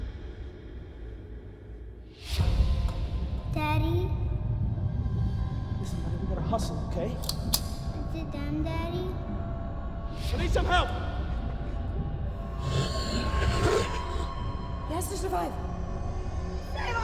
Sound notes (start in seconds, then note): 2.2 ominous music; 12.6 zombie growling